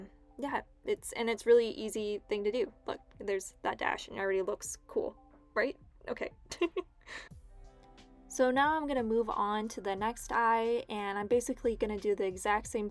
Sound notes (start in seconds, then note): 6.5 chuckles